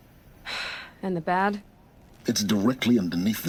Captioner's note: sighs